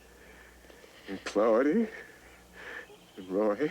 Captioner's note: none